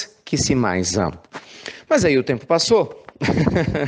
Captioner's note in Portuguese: risos